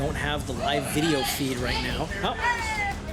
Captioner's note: shouting